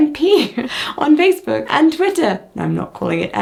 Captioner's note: chuckling